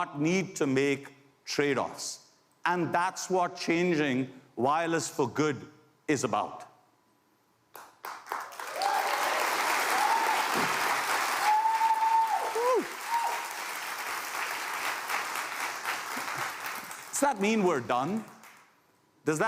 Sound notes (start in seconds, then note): 6.6 applause